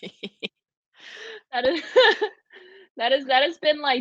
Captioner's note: all laughing